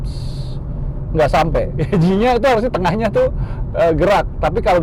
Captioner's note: laughing